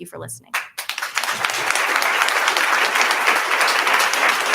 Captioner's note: attendees applauding